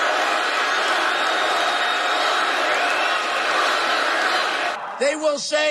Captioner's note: crowd